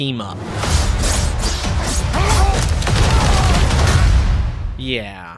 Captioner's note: fighting sounds